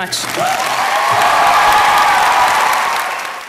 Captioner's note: applause